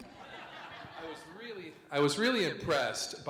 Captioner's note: audience laughs